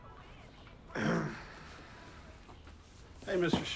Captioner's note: Paul clears throat